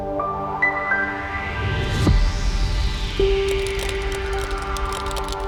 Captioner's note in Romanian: Aplauze